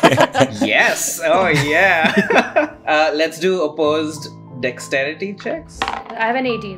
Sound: laughter; laughs

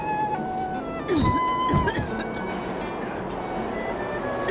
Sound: coughing

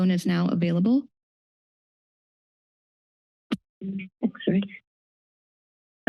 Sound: silence

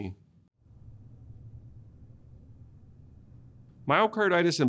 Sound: silence

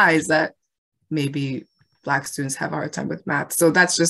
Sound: none

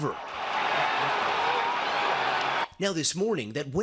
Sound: crowd cheering

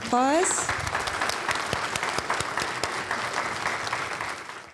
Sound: applause

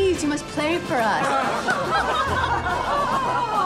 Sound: all laughing

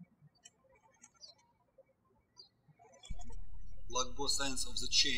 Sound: birds chirping

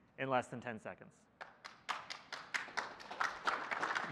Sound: applause

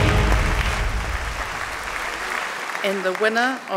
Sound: audience clapping

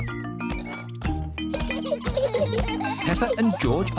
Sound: both laughing

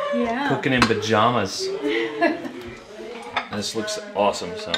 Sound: chuckles

